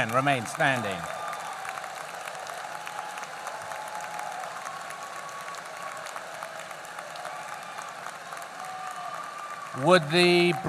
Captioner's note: applause